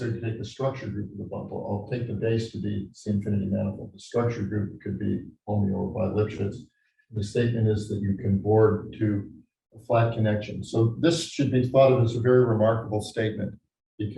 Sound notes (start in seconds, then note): none